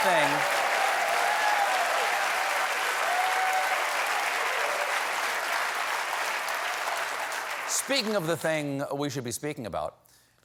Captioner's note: applause